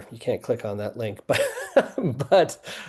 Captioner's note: laughing